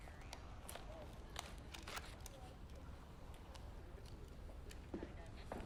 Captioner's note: holster clicks